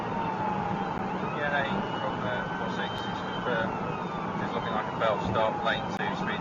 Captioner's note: police car siren; man talking on police radio